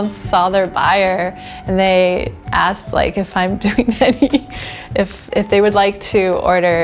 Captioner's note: laughs